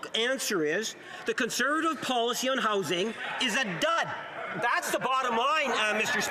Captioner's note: some Applause